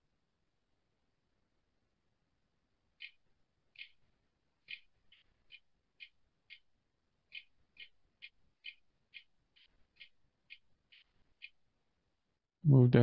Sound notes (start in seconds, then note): 1.8 silence